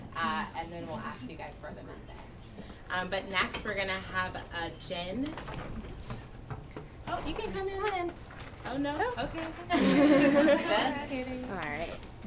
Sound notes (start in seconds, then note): 9.7 attendees laugh